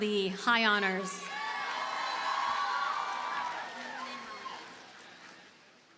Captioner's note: audience cheers and applauds